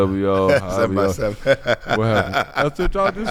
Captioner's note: laughs